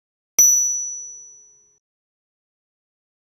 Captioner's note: bell dings